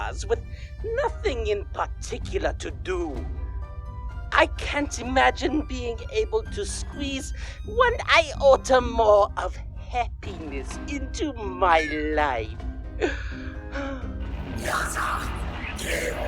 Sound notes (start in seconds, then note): 12.8 sigh; 13.8 angry music